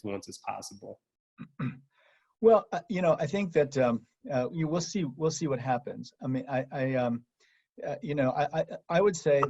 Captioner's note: cough